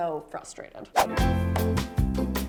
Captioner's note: whoosh; upbeat music